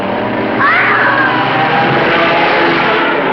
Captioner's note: scream